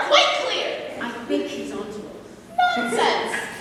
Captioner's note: whispering; aziraphale snaps fingers